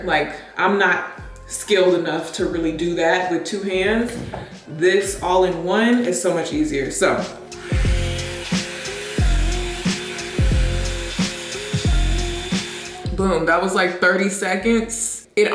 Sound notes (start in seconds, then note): 7.3 blow dryer whirs